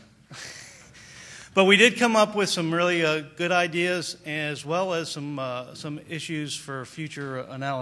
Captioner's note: laughter